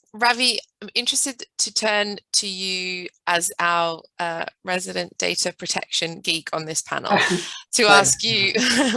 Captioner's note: laughter